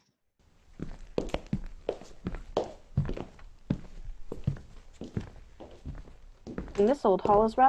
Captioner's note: footsteps